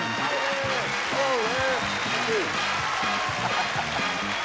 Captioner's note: audience cheering